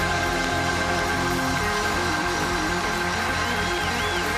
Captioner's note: cheers and applause